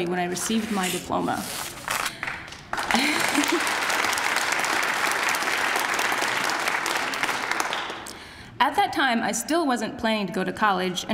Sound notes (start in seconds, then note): 2.1 applause